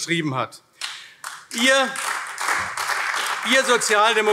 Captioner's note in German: Beifall AfD